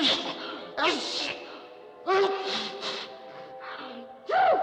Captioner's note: sneezing